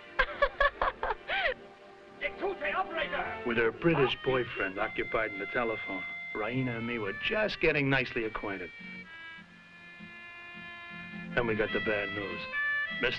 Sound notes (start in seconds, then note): 0.1 Raina laughing; 2.1 speaking foreign language